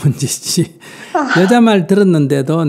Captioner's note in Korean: 한숨